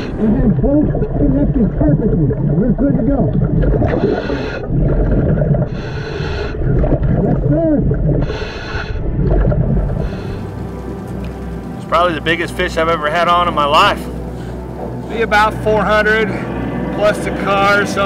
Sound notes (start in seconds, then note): 3.9 bubbles churning; 3.9 deep breathing